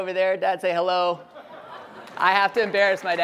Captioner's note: laughter and applause